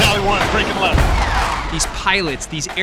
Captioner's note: plane swooshes